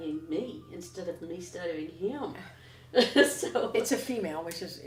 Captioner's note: laughs